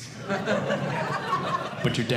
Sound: audience Laughing

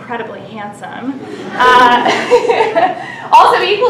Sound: laughter

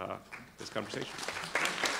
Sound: applause

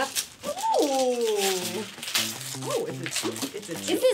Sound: papers rustling; rustling continues

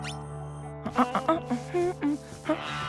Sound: humming

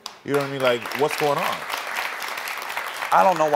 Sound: audience applauding

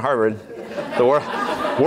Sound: laughter

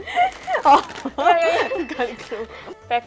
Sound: laughs

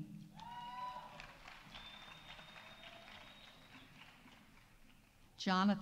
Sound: audience cheering; audience applauding

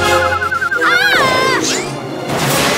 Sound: screaming

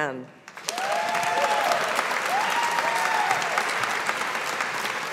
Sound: audience applauding

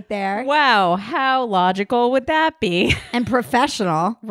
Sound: laughing

